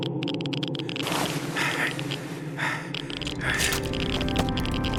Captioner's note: sighs